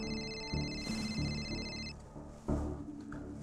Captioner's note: phone ringing